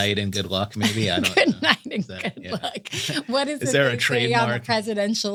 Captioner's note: laugh